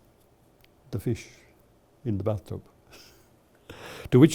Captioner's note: chuckles